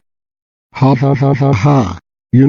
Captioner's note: Winnie the Pooh laughing